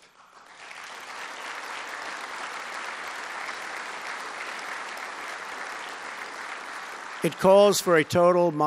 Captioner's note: applause